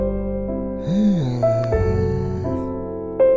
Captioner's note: Abraham sighs; light piano music